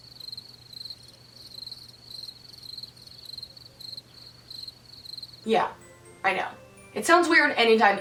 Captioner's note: cricket noise